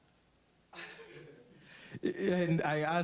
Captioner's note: laughing